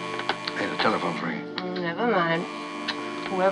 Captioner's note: moaning, giggling; buzzing Continues